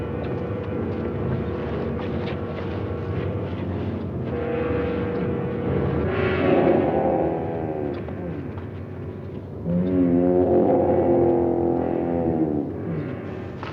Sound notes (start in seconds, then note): 7.0 growling